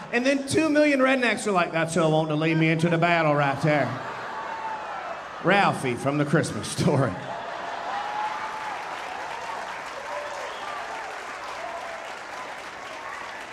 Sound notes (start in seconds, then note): 3.5 audience laughing; 7.2 audience laughing, cheering and applauding